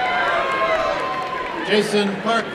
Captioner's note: applause and cheering